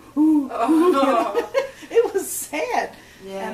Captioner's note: laughs